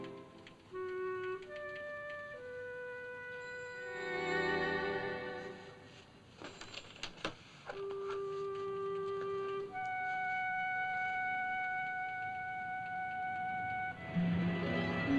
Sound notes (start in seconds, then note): 5.8 pages rustling; 7.8 melancholy music; 13.9 dramatic music